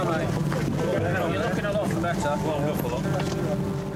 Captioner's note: people chattering